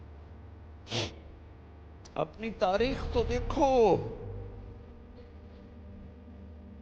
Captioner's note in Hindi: खर्राटे